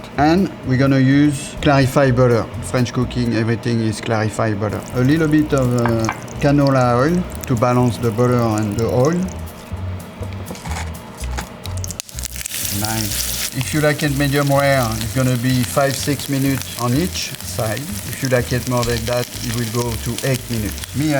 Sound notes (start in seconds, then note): 12.4 steak sizzles